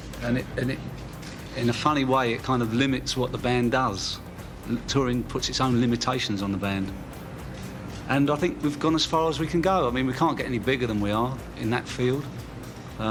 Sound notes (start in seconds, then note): none